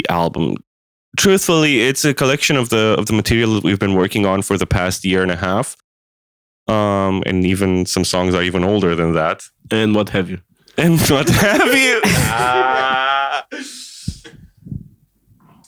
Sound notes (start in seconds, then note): 13.9 laughter